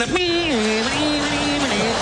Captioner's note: humming